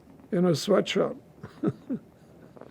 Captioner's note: laughing